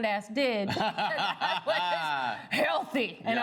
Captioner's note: all laugh